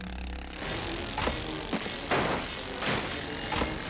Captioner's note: dramatic music; solemn music; mower crashing; dramatic music; mower crashing